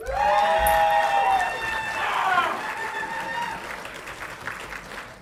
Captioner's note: audience clapping and cheering